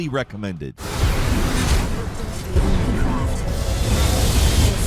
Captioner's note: gunshots echoing